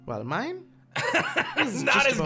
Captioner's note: laughs